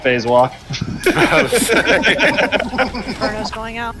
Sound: laughter

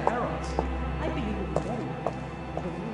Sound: Footsteps approaching behind 47

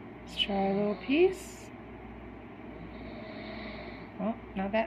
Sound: you hear my friend's baby brother snoring in the background

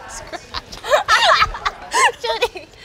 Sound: laughing

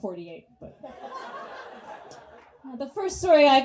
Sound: audience laughs

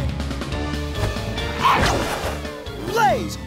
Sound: grunting

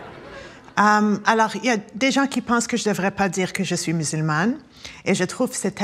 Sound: speaking French

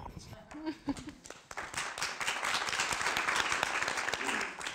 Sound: applause

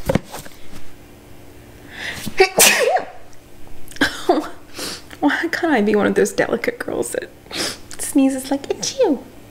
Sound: tiny fairy sneeze

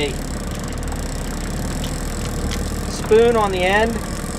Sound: reel clicking in

